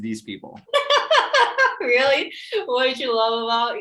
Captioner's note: laughs